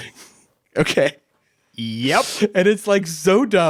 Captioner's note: chuckles